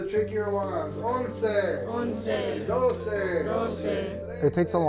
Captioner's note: and students counting in Spanish